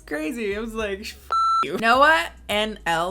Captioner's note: beep